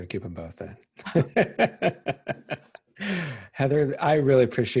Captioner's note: laughing